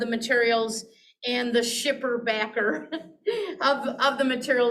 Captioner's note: chuckles